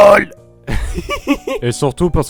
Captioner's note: laughs